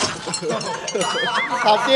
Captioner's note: chuckles; laughs